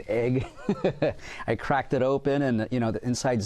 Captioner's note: chuckles